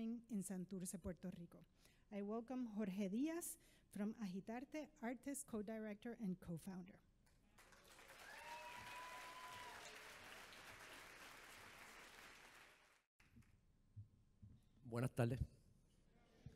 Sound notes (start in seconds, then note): 7.5 audience applauds